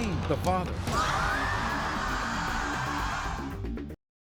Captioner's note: screaming